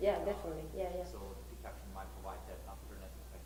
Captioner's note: voiceover